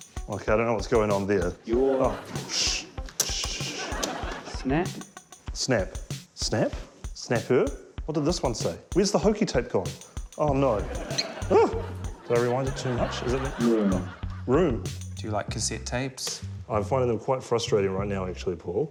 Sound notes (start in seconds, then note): 11.0 tape squeaks; 11.0 yelps